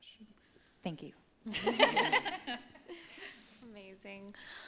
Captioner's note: laughter